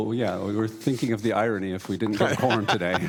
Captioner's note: laughter